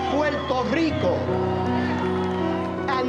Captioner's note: cheers and applause